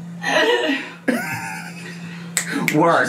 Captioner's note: laughs